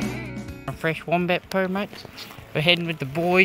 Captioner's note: in an aussie accent